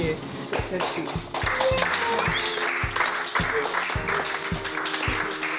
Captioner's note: cheers, clapping